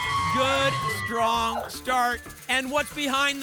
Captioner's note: applause and cheering